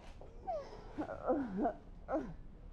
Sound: groaning

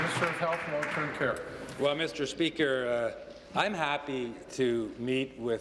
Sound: applause

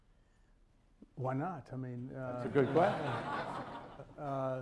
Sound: laughter

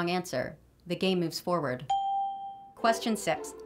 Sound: ding

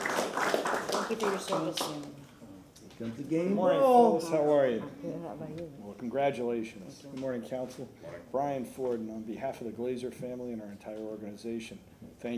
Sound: applause

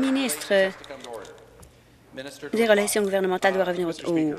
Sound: applause

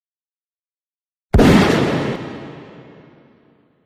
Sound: gunshot

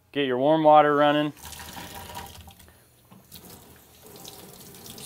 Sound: water runs

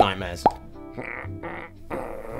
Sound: little lumpy grumbles

